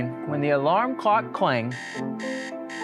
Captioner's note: alarm clock ringing